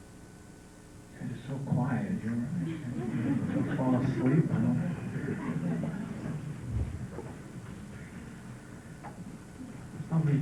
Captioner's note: laughter